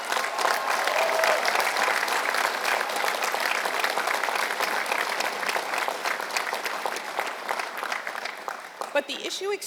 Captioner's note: applause